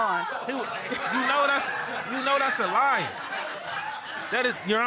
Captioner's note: audience chattering and laughing